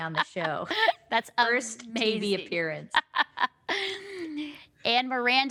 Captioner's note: laughs, crosstalk